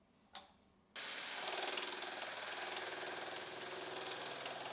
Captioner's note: machinery whirring